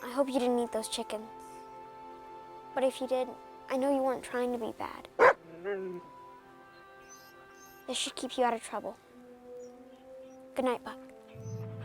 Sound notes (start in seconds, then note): 5.2 Buck barks